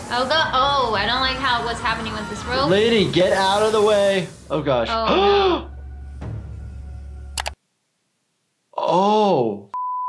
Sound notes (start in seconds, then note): 5.0 gasps